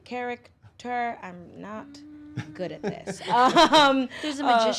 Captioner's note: laughs